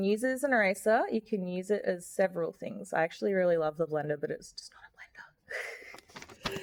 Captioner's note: whispered